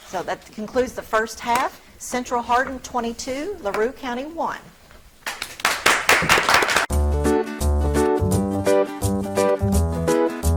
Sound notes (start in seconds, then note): 5.2 audience clapping; 7.2 upbeat bright music